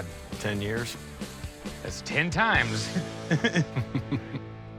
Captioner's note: both laugh